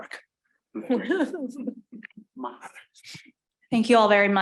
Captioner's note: panelists chuckling